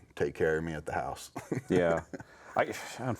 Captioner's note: chuckling